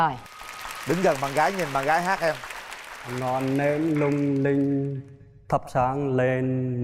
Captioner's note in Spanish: Aplaudir